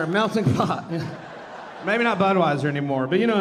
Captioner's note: audience laughing